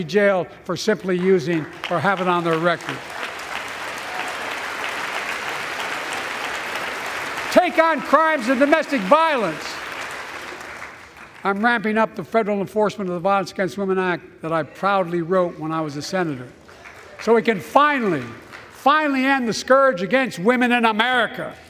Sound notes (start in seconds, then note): 3.5 applause